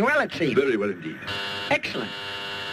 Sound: machine buzzing

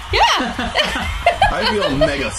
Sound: laughs

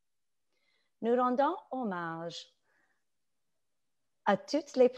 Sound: speaking French

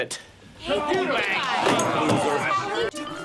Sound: shouting

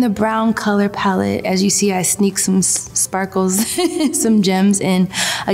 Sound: chuckles

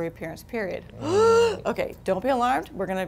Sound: gasps

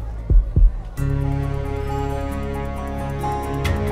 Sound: none

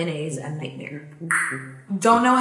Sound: tongue pops

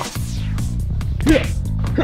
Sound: smack

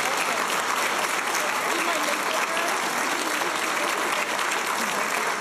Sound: applause and cheers; people talking; applause

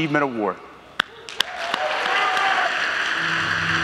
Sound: audience applauding; gentle music

